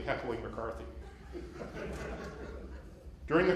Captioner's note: laughter